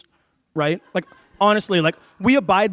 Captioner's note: laughter